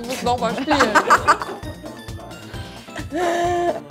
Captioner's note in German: Gelächter